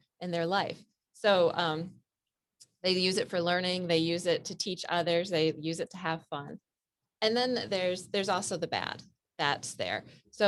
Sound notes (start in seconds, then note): none